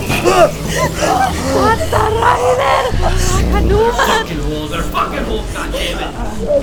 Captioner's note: grunts of pain